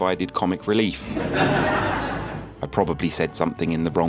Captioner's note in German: lacht